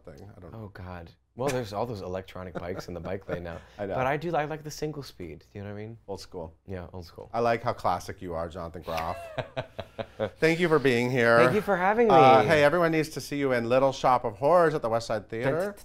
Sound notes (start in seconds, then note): 8.9 laughs